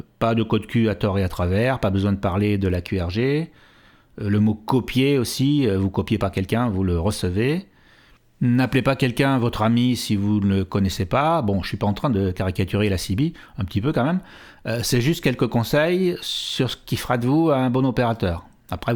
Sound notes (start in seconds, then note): 7.7 in french